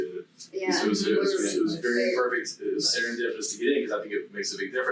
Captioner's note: group chattering